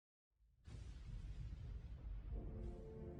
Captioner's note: thunderbolt